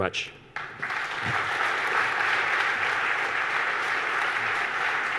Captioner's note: audience applauds